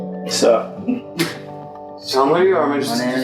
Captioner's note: laughing